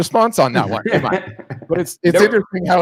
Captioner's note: laughs